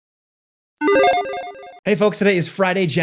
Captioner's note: video game effects